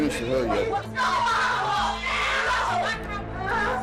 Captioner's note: screaming